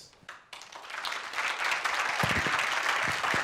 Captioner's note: applause